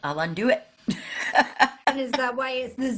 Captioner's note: laughing